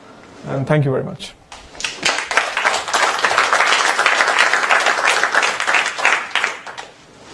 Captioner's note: applause